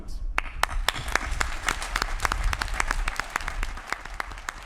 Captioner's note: applause